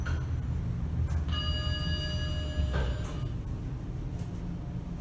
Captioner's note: ding